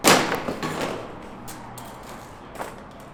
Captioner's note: thud